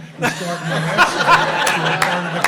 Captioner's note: laughter